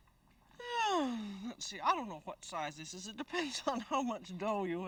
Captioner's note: sigh